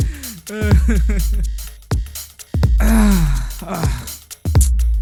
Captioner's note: happy laugh continues